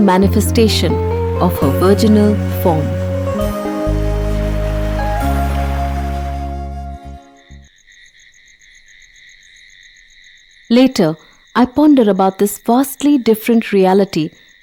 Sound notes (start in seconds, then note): 3.2 gentle music; 3.2 moves into cricket chirping